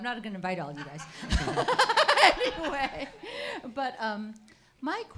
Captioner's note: audience member laughs